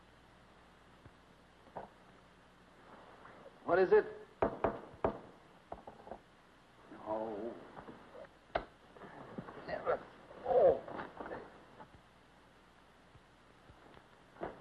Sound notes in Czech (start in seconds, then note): 4.4 Klepání; 7.0 Zasténání